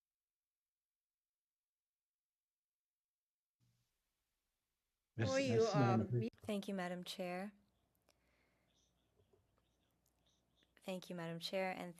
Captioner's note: speaking French